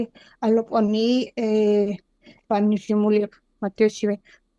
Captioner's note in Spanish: Hablando en kaqchikel